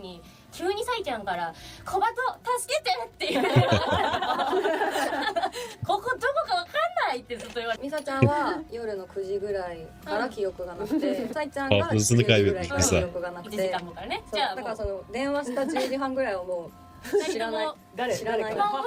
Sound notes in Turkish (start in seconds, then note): 3.2 kahkaha